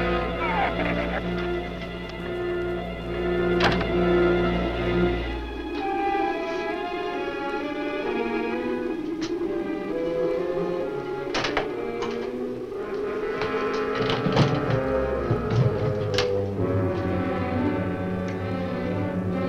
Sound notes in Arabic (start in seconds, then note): 0.0 ثرثرة الزبابة; 3.6 يُغلق الباب بقوة; 5.1 هدير ريح مكتوم; 13.3 صوت نقر مصراع النافذة